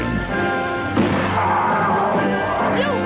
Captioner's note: screams